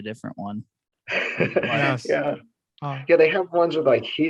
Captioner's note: laughs